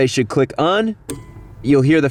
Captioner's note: click